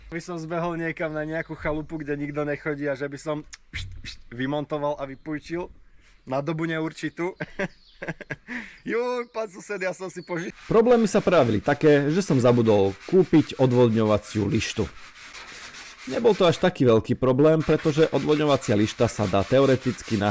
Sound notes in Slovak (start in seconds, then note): 7.4 smiech